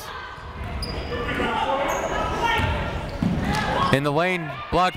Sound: people shouting in the crowd

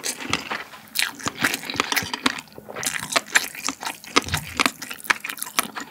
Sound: pop-pop

